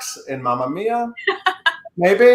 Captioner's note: laughing